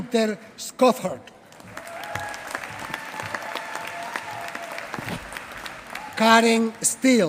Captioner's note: applause